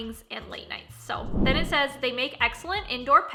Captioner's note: whooshing